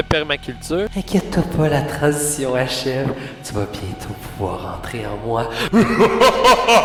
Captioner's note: strange voice